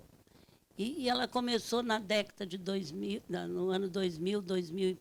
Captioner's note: speaking Portuguese